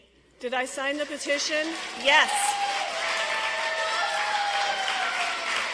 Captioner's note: audience applauds